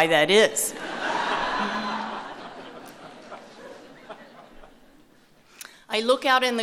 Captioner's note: laughter